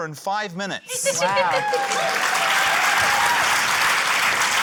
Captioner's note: cheering, applause